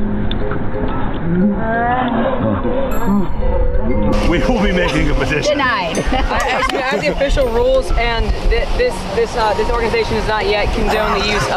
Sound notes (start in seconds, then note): 6.0 laughing